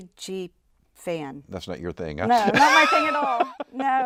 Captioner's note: laughs